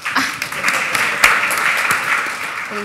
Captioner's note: applause